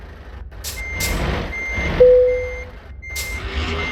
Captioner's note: vehicle and Trailer Detaching Sounds; truck Reversing Sounds; vehicle and Trailer Attaching Sounds